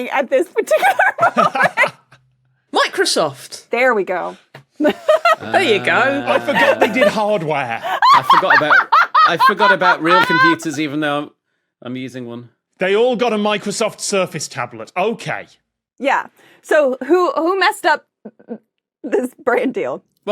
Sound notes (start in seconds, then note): 0.7 laugh; 4.9 laughs; 7.8 laughs uproariously